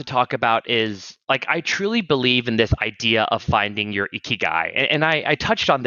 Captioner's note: japanese